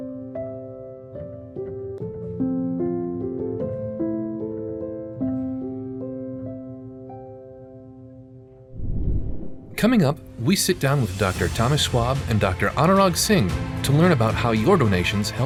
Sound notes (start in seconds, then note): 8.7 graphics whooshing